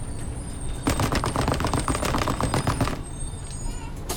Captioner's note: banging on bus seats